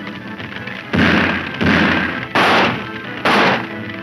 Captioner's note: gunfire ensues